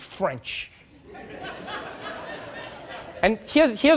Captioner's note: audience laughing